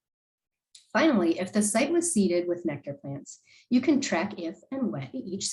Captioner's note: click